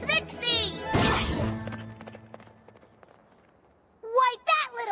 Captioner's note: hoofbeats